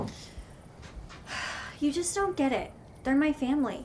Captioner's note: Gigi sighs